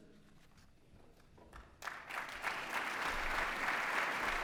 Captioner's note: applause